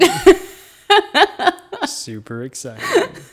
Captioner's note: laughs